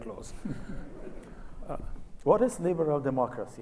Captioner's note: audience laughs